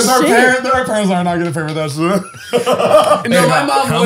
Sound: mumbles

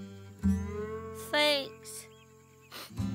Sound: sniffling

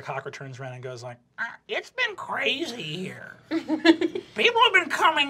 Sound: giggling

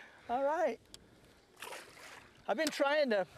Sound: splash

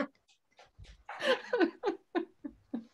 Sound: laughs

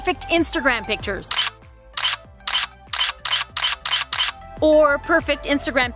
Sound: camera shutter

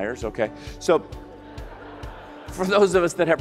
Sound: audience laughs

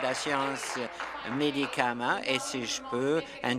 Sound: applause

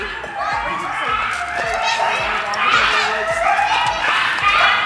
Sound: animals howling

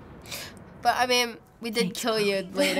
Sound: chattering

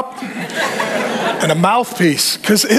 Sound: congregation laughing

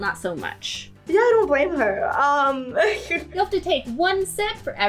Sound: laughs

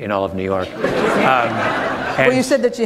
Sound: laughter

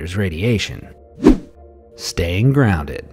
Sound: air whooshing

